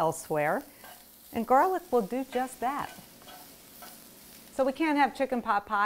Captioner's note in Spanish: crepitando